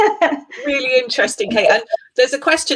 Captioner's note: laughs